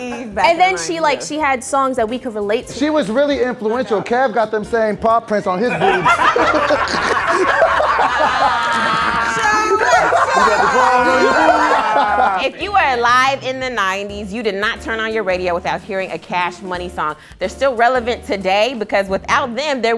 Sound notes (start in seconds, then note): 5.6 laughing